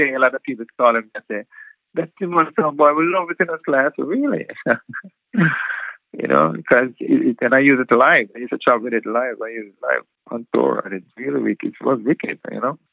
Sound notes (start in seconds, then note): 4.4 laughter